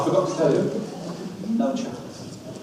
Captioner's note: audience laughs